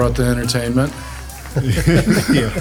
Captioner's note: group laughs